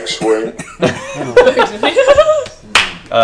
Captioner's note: all laugh